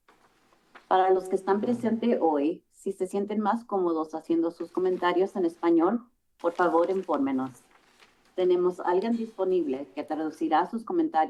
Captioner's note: foreign language